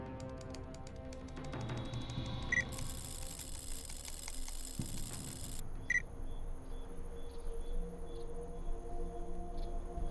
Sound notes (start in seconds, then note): 0.2 keys clacking